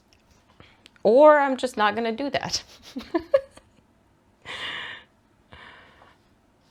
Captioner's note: laughs